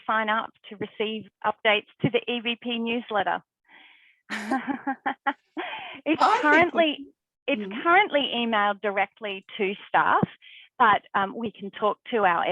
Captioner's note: laughing